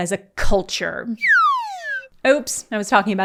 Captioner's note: downer slide whistle